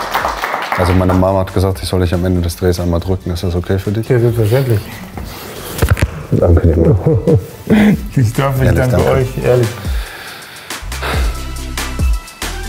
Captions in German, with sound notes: Meine Mama hat gesagt, ich soll euch am Ende des Drehs einmal drücken. Ist das okay für dich? - Selbstverständlich. Danke, Leeroy. - Ich danke euch, ehrlich. (Erleichtertes Seufzen) (Dynamische Musik)